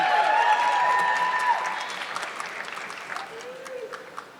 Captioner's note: audience clapping